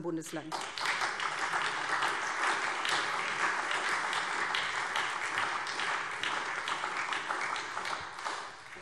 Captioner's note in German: Beifall SPD und Freie Demokraten